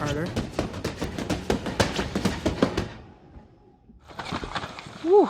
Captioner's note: feet stomping